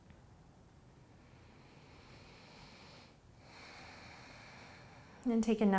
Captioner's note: inhaling and exhaling